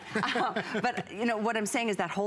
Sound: laughter

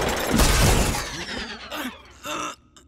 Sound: grunting

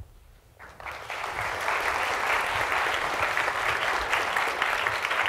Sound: audience claps

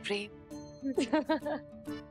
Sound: laughing

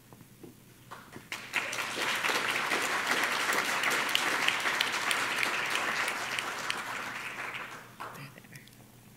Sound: applause

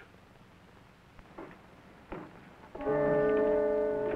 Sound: footsteps approaching; suspenseful music

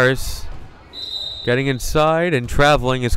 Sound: whistle blowing

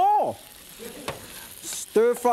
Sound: audience chuckles

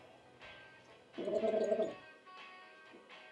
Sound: gargles

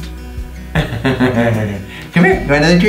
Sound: laughs

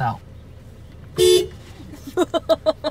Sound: car honks; laughs

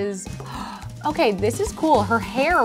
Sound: gasps

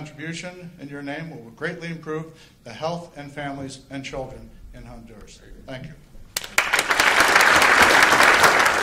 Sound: applause

